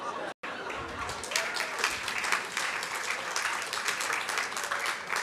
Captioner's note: laughter; applause